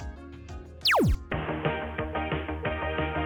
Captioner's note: air swooshes; laser beams; upbeat music